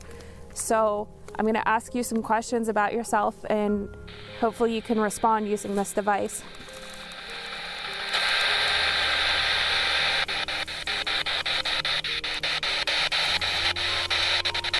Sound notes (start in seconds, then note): 8.4 radio static